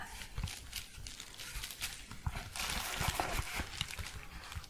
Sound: crinkling

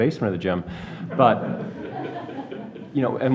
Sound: audience laughs

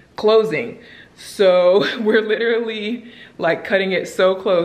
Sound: chuckles

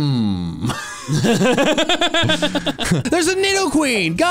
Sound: laugh

